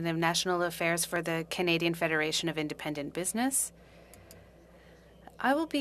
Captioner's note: speaking French